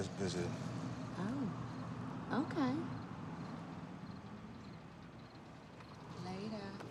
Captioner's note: insects chirping